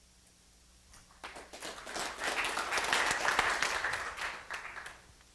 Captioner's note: applause